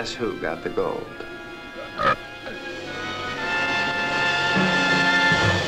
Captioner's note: creature burping